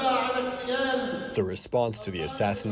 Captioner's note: through translator